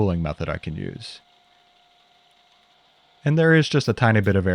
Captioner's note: mill whirring